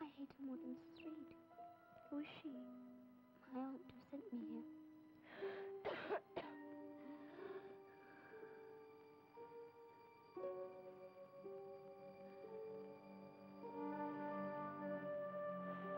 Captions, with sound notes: - Who is she? - My Aunt, who sent me here. (Helen coughing) (dramatic music)